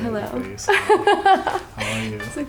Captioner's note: laughs